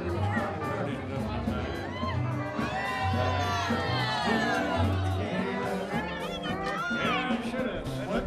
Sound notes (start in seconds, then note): 1.3 crowd yelling